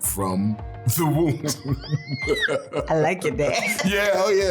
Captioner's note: laughing